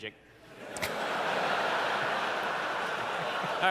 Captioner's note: laughter